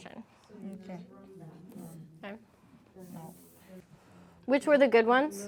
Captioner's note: students chattering faintly